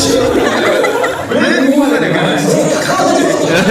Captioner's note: haha